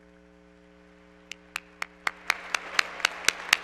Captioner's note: applause